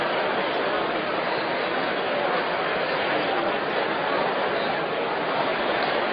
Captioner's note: crowd noise